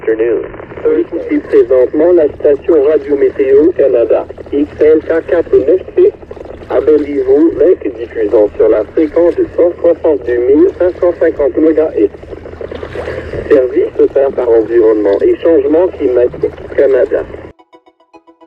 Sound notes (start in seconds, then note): 2.3 weather report on the radio in French